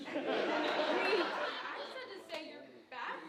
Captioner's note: audience laughing